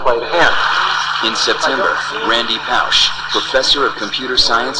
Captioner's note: voiceover